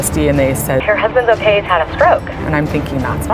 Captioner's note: voiceover